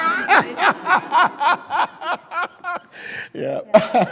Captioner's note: speakers laughing